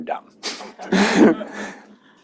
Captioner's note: laughter